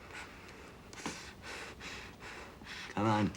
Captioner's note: breathing heavily